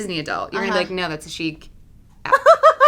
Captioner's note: laugh